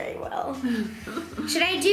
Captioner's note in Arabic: يضحك